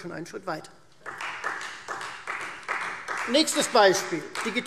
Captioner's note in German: Beifall Freie Demokraten